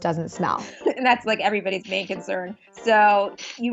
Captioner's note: laughs